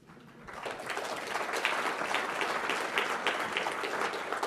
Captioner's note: applause